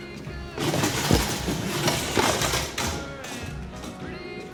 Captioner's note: clattering; singing